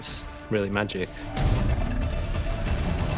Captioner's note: low growl